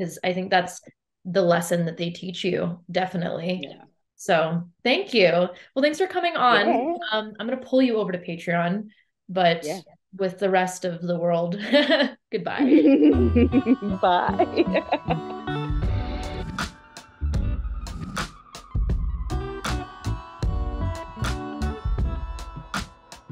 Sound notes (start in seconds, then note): 12.6 laughs; 15.7 groovy lo-fi outro music